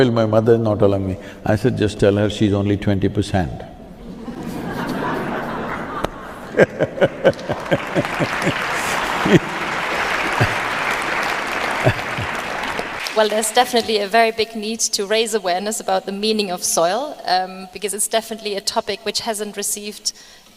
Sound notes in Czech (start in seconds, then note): 5.8 smích; 6.6 Aplaus